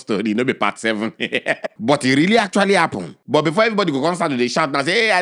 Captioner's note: laughing